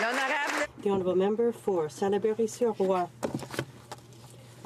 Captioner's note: applause